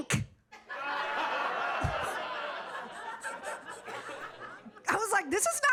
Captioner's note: audience laughing